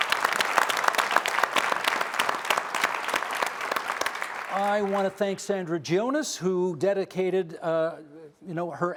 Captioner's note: applause